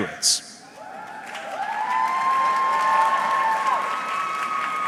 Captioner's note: audience cheering